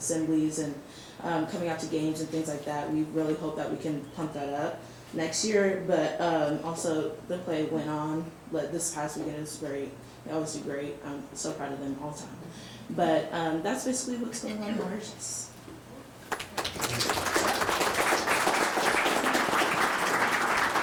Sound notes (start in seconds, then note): 16.2 audience clapping